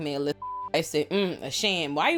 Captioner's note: beep